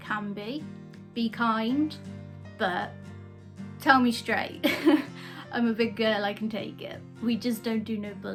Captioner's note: laughter